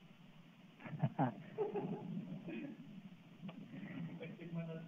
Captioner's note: laughter